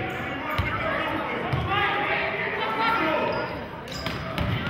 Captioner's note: yelling